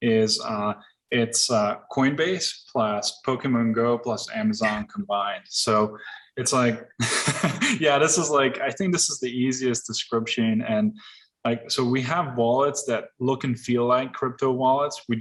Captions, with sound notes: is it's a Coinbase plus Pokemon Go plus Amazon combined. So it's like, (laughs) yeah, this is like, I think this is the easiest description. So we have wallets that look and feel like crypto wallets.